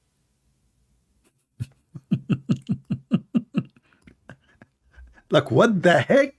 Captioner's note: Ketawa